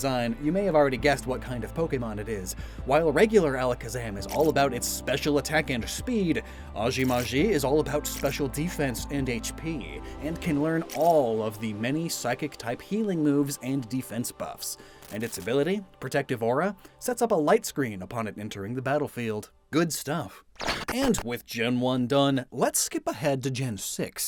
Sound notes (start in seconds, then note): 20.6 glitch SFX